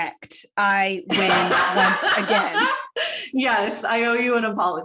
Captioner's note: busts out laughing